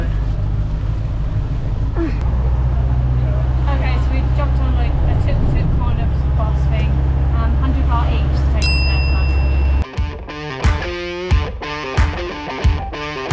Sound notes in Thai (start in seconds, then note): 10.6 ปรบมือ